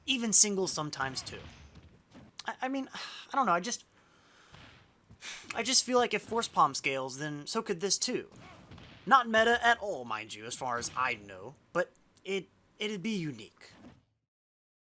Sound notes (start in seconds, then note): 2.2 sigh; 5.2 huff